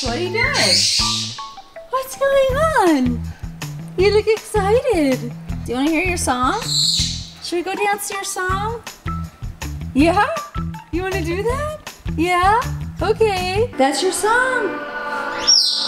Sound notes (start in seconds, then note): 6.3 Jersey squawks; 14.7 dance music